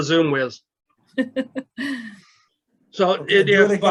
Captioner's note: laughs